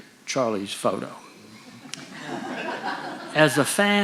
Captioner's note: audience laughing